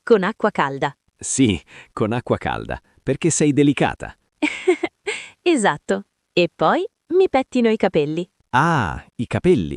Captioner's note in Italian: risate